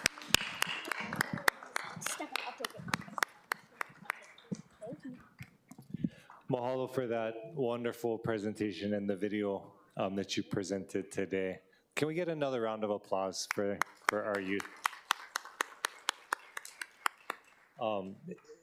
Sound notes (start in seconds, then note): 2.6 applause